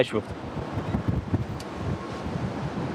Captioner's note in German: Windrauschen